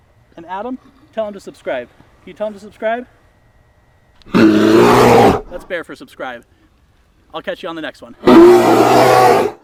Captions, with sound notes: And Adam, tell them to subscribe. Can you tell them to subscribe [bear growl] That's bear for subscribe. I'll catch you on the next one. [bear growl]